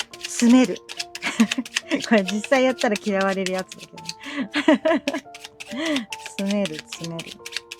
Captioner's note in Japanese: 笑い